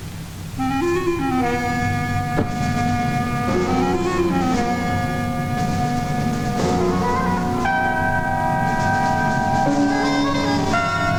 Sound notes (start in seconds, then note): 0.6 dramatic music; 2.3 car door thudding; 4.1 dramatic music